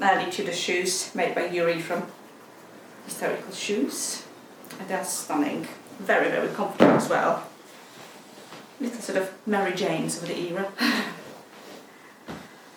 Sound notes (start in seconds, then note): 6.8 shoe thuds; 11.9 laughs